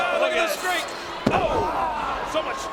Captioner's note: body thuds